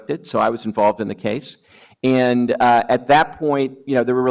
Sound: none

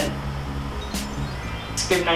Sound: magical chimes sound effect

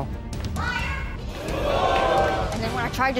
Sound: audience whoops

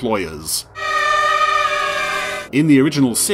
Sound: screaming

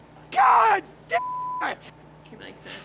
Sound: beep

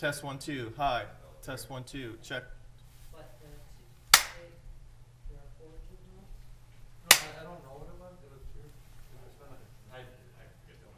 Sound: gavel

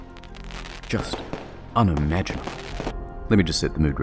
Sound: fireworks noises

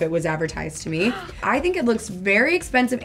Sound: gasps

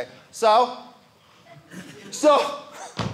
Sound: audience laughing

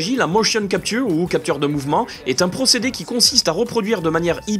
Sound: in french

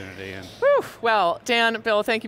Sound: sighs

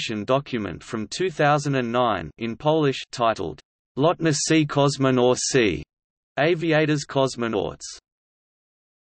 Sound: in Polish

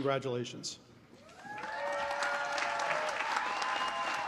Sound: applause

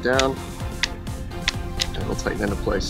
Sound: button repeatedly clicking

